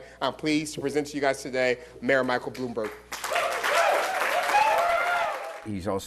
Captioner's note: cheers and applause